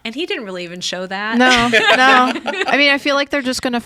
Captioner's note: group laughing